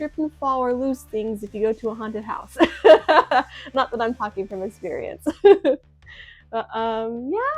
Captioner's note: laughs; chuckles